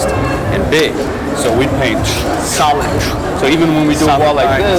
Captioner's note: swishing